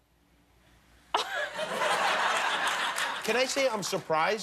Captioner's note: laughter